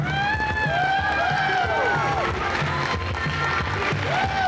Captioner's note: cheers, applause